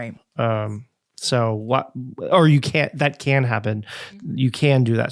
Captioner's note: stammering